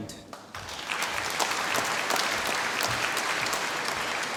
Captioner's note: applause